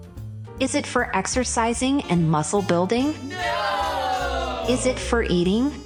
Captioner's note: group of children shout “Nooooo”